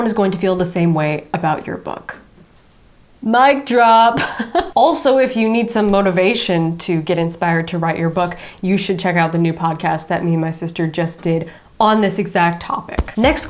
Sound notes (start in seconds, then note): 3.9 laughing